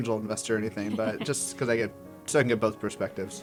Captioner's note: laugh